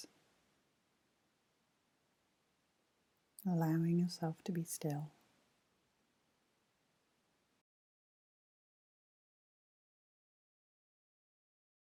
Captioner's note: silence